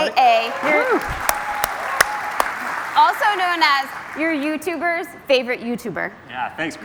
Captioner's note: applause